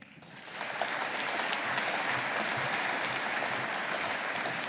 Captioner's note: audience applauding